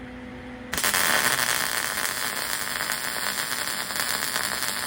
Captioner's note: buzzing